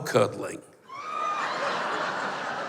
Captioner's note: howls and laughter